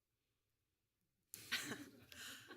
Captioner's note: laughter